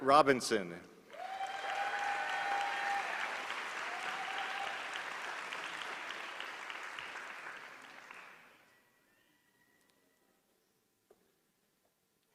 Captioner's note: applause